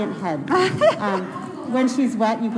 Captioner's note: laughing